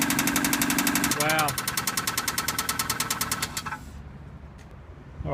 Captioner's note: engine shuts off